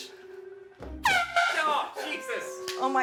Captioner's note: air horn blast